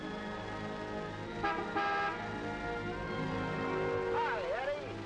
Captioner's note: horn honking